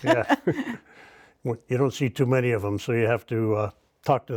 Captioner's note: laughing